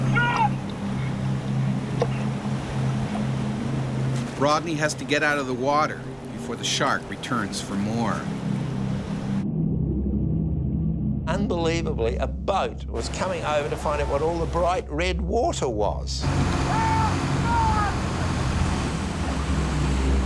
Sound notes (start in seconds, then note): 0.0 shouts; 4.5 voiceover; 16.5 shouting